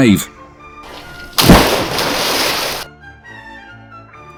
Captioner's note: splash!